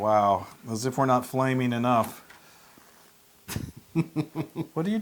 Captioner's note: laugh